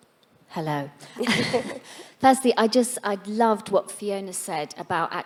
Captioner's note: laughing